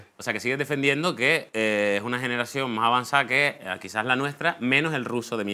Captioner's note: none